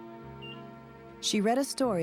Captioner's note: heart monitor beeping